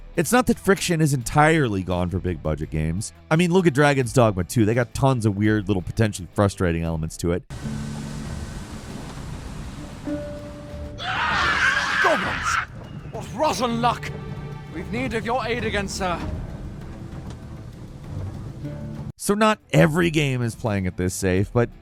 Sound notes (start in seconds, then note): 9.9 gentle music; 10.9 character screaming; 16.9 dramatic music